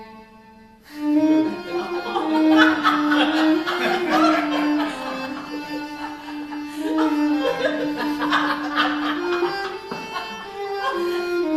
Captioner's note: laughter